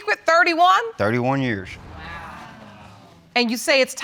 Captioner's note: audience exclaims